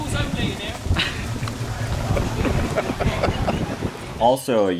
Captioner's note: laughing